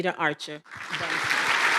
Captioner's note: applause